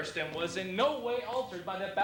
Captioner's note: none